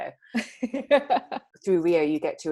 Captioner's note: laughs